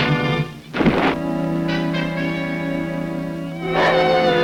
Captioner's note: body thuds; Devil barks; somber music